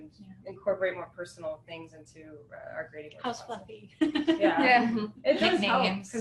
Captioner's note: laughter